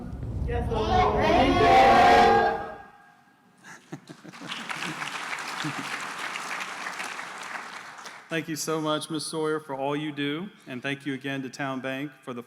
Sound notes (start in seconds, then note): 3.6 laughter; 4.2 applause